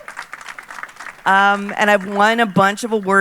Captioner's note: audience applauding